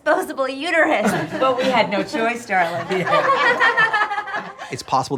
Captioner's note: all laugh